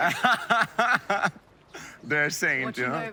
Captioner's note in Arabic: يضحك